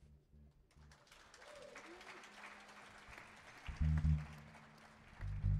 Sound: audience applauding

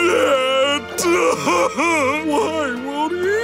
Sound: crying

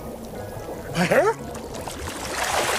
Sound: choked gasp

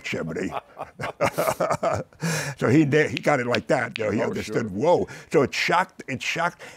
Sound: both laughing; snaps fingers

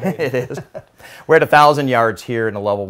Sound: laughs

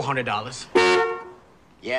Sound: honks horn

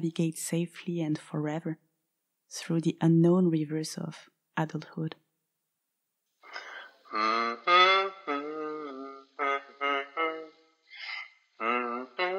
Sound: hums

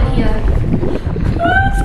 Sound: bubbling

